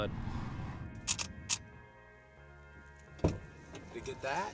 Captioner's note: camera shutter clicking